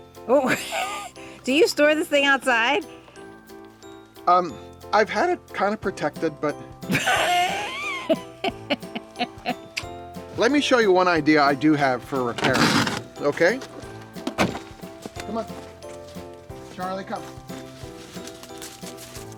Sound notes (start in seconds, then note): 0.4 laughs; 6.9 woman laughs